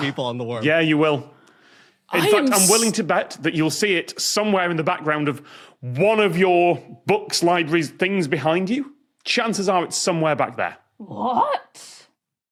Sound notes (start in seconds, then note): none